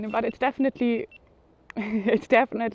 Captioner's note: camera beeping